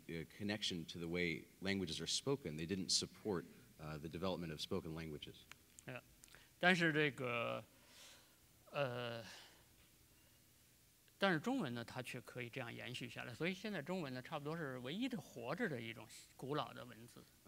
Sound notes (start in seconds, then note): 6.7 speaking in Chinese